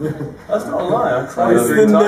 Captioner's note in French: rires